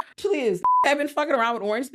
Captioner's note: beep